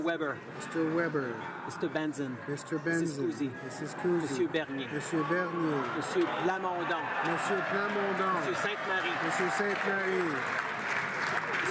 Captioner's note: some Applause